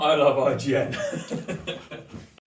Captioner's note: forced laughter